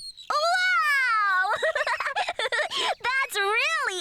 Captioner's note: giggling